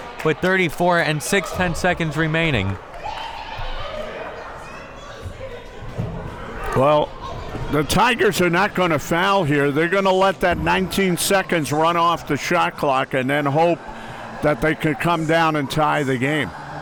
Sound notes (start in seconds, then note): 3.6 crowd members talking